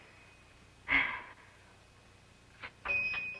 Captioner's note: sighs